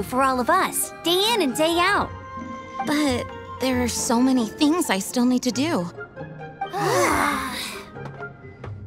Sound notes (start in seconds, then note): 6.7 sigh